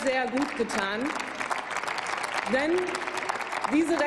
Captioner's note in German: Applaus